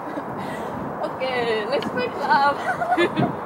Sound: laughing

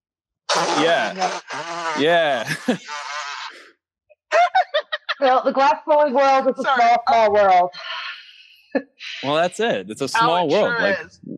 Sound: laughing

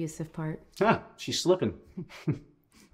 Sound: chuckling

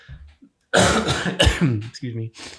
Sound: Angelus coughing

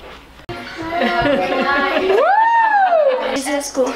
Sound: laughs

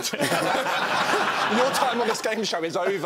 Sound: laughing

